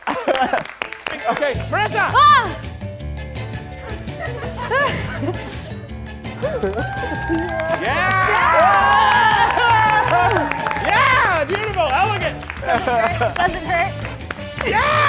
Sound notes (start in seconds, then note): 3.0 lively music; 6.9 audience cheering